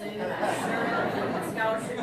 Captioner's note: audience laughs